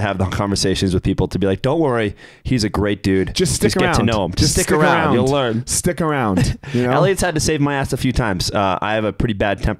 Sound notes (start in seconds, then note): 6.3 chuckles